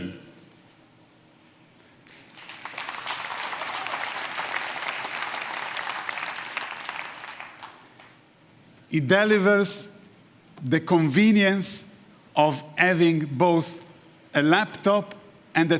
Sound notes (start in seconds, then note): 0.4 applause; 2.3 cheers and applause